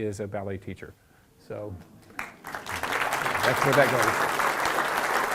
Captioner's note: applause